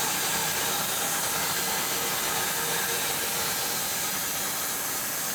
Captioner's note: saw humming continues